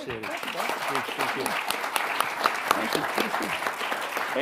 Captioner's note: audience clapping